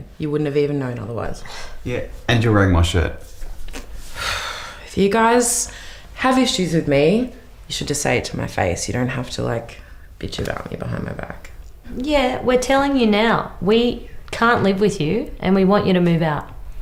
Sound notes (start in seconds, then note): 4.1 sighs